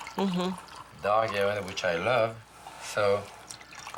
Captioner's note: pouring